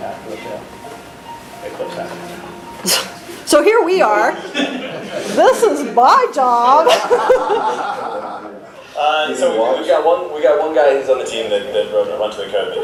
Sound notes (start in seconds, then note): 6.8 laughter